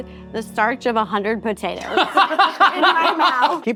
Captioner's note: laughing